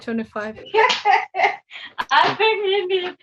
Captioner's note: laughing